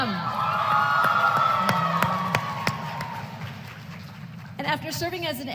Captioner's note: applause